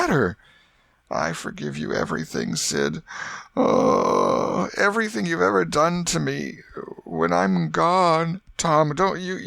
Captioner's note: groan